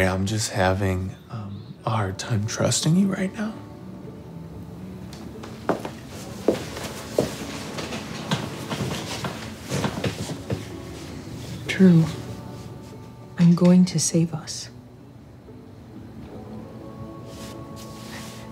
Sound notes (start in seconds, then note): 5.2 footsteps approaching